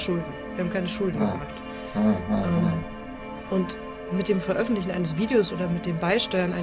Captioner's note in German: schnauben